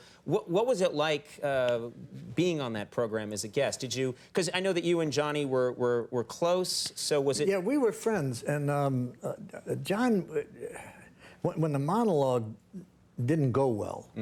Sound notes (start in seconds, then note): none